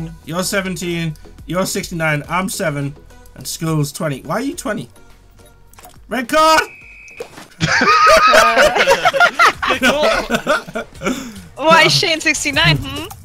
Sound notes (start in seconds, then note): 7.0 pop sound; 7.6 all laughing